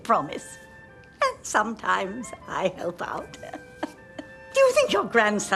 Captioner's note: laughing